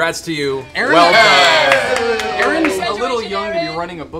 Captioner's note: cheering